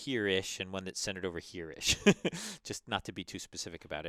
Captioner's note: laugh